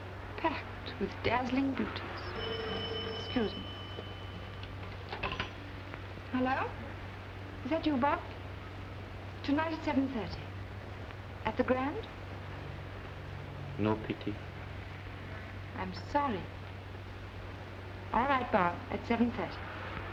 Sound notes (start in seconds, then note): 2.1 phone rings